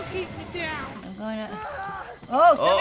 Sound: distant screaming

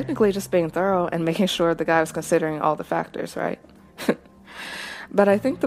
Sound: chuckles

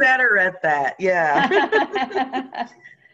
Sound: laughs

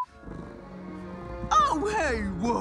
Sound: beep; cat purring

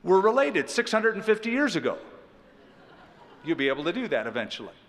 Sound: laughter

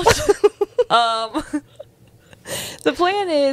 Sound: panel laughing

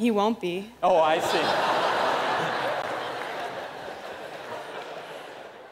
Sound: laughter

